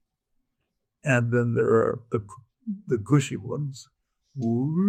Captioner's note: imitating pitch